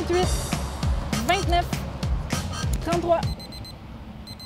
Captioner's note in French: petite sonnette